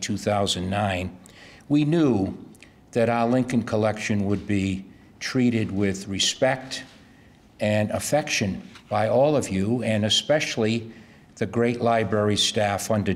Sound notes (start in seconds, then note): none